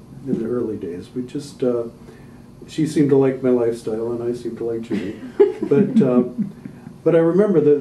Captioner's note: laughter